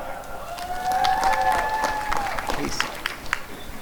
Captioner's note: applause and cheering